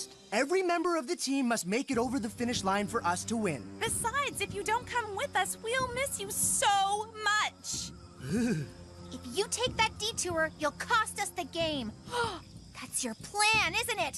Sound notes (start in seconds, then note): 8.2 Alejandro Shivering; 12.1 gasp